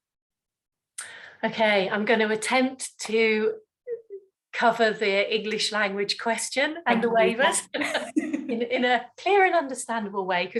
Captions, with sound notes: - I'm gonna attempt to cover the English language question and the waivers (laughs) in a clear and understandable way.